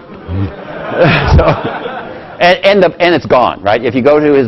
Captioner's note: laugh